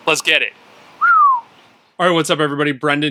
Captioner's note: whistling